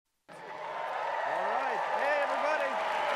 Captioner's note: applause